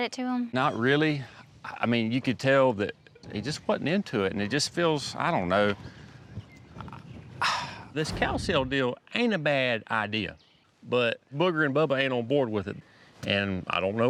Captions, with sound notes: EYE WHEN YOU SAID IT TO 'EM? NOT REALLY, I MEAN YOU COULD TELL THAT THEY JUST WASN'T INTO IT AND IT JUST FEELS I DON'T KNOW... [SIGHS] THIS COW SALE DEAL AIN'T A BAD IDEA, BUT BOOGER AND BUBBA AIN'T ON BOARD WITH IT.